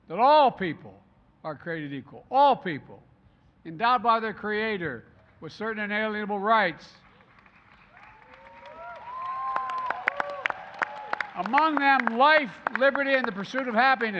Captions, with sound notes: that all people are created equal -- all people -- endowed by their Creator with certain unalienable rights -- (applause) -- among them life, liberty, and the pursuit of happiness.